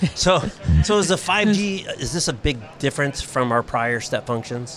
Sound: laughs

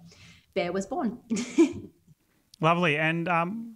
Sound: giggles

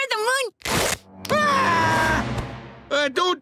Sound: screams

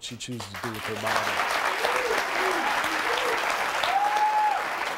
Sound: audience applauding

